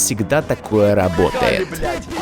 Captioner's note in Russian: орут и матерятся